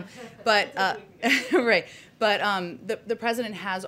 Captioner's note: laughs